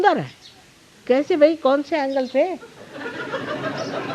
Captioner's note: laugh